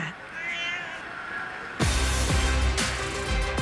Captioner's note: meowing